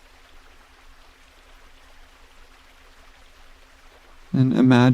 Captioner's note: water gushing